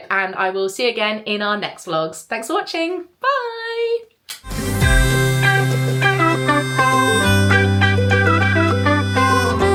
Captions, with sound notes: and I will see you again in our next vlogs. Thanks for watching. Bye. (smooches) (cheerful music)